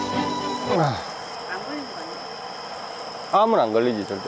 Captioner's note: eating